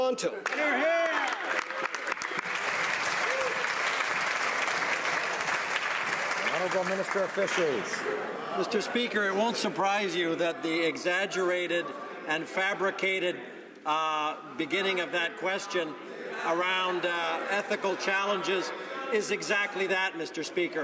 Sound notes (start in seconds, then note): 5.6 some Applause